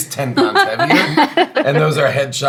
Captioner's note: laughing